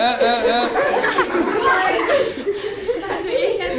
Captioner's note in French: rires